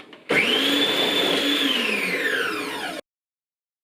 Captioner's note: motor whirring